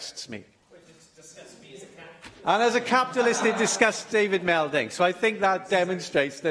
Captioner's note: laughter